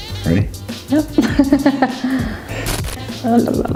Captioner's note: laughs